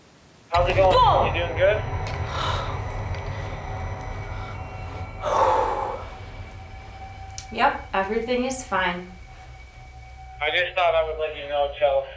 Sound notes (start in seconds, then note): 4.2 sighs